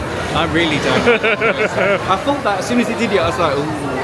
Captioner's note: laughing